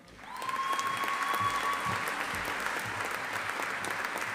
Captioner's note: audience applauding